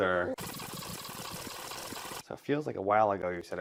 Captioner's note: fast forward sounds for a few more seconds